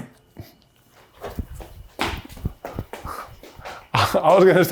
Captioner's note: feet thumping